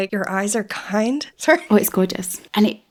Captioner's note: choked up